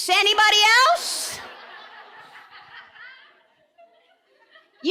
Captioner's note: audience laughing